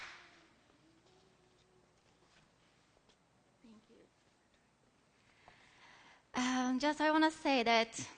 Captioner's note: applause; silence